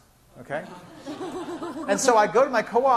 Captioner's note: class laughing